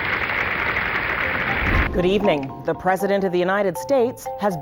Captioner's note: applause